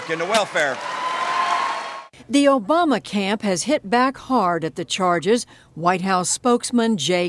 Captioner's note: cheering and applause